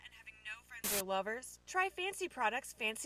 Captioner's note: static